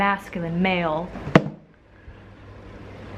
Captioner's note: thunk